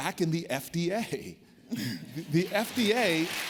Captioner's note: applause